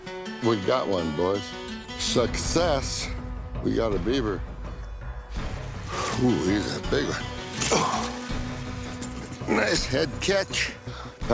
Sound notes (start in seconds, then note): 7.5 grunts